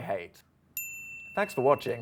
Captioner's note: bell dings